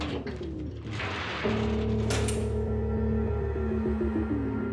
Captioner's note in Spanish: ruido de la reja